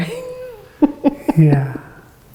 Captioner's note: laughing